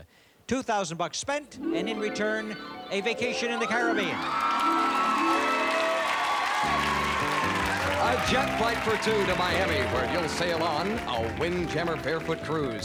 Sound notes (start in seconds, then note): 3.8 cheers and applause